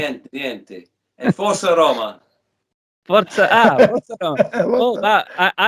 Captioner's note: talking in italian